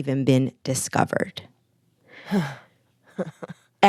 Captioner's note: laughter